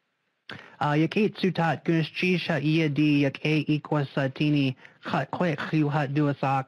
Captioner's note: speaking Native language